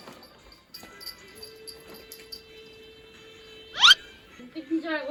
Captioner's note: scratching